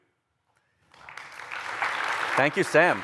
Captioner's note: applause